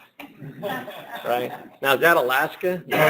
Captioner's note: laughter